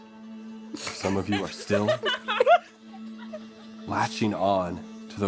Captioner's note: laughter